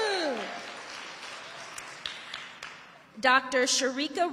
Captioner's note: audience applauding and cheering; audience applauding